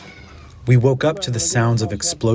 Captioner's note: through translator